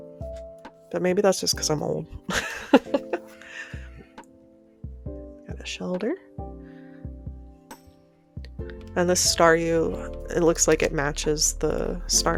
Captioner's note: laughter